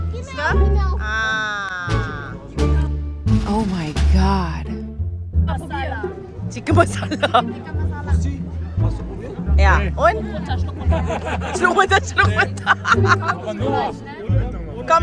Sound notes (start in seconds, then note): 0.1 speaking German; 6.4 laugh; 11.2 laugh; 11.6 speaking German